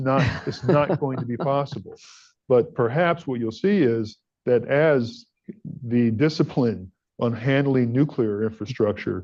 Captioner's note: laughs